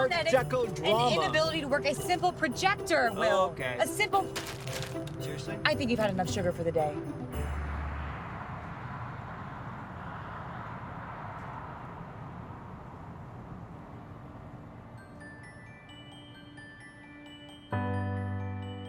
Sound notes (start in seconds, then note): 7.3 jaunty Christmas music; 9.4 car rumbling; 14.8 gentle upbeat music